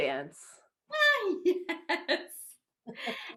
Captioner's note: laughing